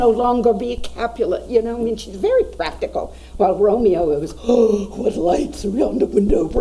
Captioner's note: gasping